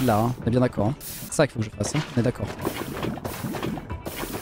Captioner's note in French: bruits d'eau et de lave